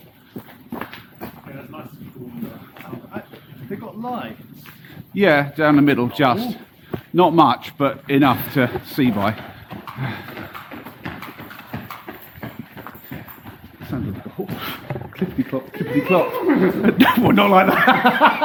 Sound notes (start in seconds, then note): 10.2 clip clop sounds